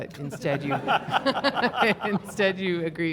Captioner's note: everyone laughing cheerfully